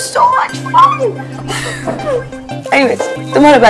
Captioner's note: Shreya giggling